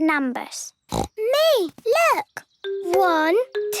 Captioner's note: snorting